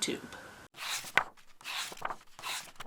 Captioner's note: pages turning